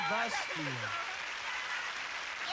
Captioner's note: applause